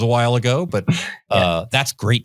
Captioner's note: laughs